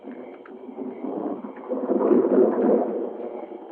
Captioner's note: thunder rumbling